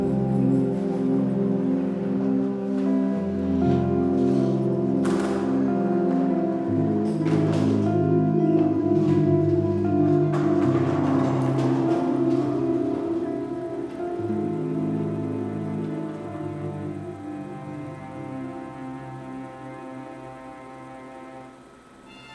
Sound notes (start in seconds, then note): 0.3 bowling ball thudding; 11.9 pins clattering; 14.5 film reel clicking; 18.6 melancholic string music